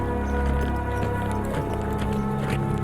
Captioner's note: horses walking